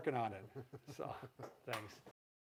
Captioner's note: both laughing